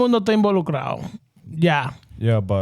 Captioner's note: speaking Spanish